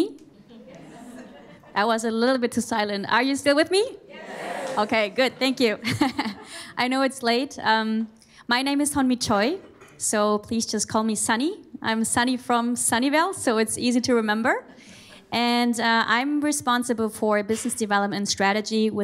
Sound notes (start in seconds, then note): 4.1 laughs